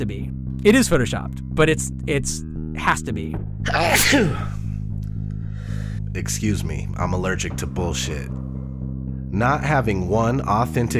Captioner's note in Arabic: العطاس!